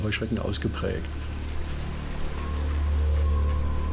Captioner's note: fluttering